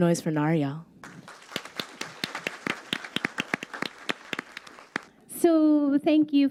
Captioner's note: crowd applauds